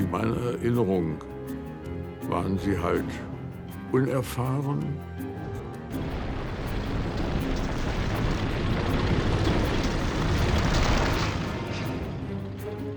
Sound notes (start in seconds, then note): 0.1 speaking in foreign language; 6.0 tank engines whirring